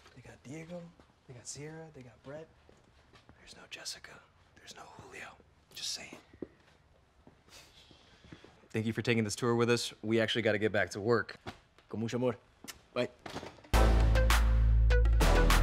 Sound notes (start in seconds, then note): 7.4 shushing; 11.9 Diego speaking in Spanish